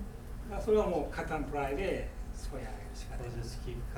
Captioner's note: speaking in foreign language